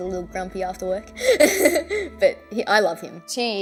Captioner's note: laughing